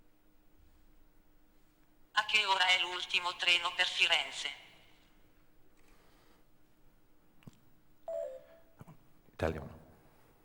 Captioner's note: speaking italian